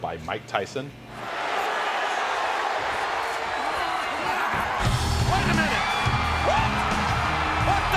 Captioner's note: applause